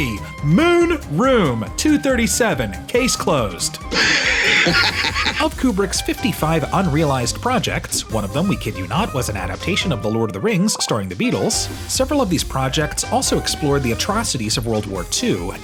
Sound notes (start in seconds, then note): 3.9 laughing